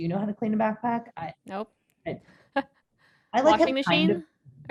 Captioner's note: laughs